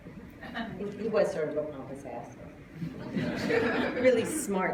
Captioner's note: laughter